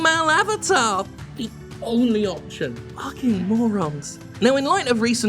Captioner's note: quietly